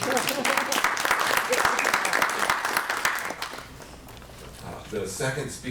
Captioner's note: applause